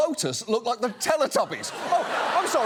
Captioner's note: audience laughs